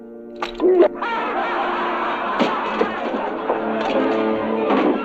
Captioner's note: prisoners laughing; dramatic orchestral music